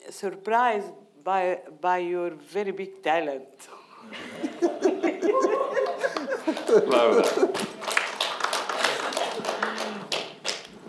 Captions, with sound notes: surprised by your very big talent. (all laughing) (audience clapping)